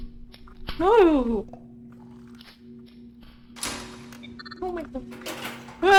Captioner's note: fear noises